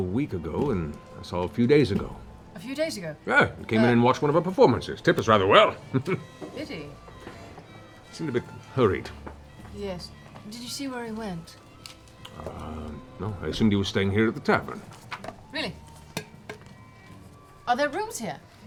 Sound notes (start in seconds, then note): 5.6 chuckles